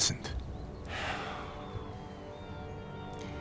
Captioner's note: sighs